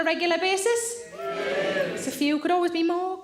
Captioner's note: audience cheers